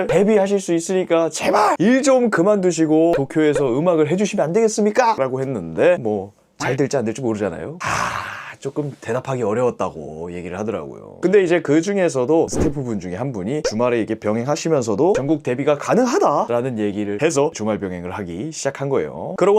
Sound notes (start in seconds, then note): 7.8 sighs